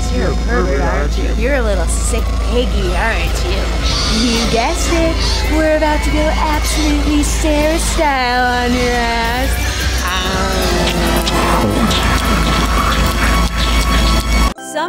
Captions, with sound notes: You're a pervert, aren't you? You're a little sick piggy, aren't you? You guessed it, we're about to go absolutely Sarah-style on your ass. (munching)